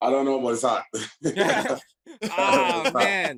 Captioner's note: laughter